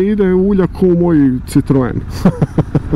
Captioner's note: car